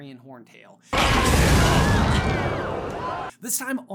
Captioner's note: Dracarys-y dragon scream of rage